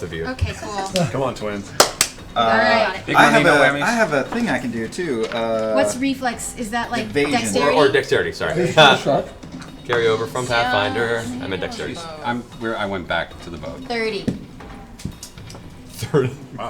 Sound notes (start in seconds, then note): 8.7 sing-song